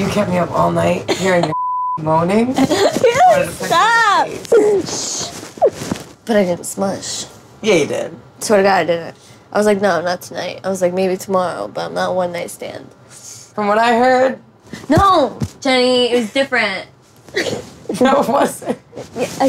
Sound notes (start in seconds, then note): 1.1 Snooki laughs; 3.6 laughs; 18.3 laughs